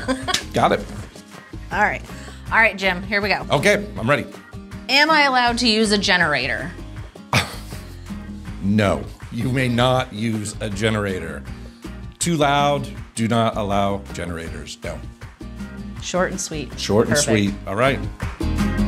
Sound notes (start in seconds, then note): 7.3 laughs; 18.7 pleasant light rock music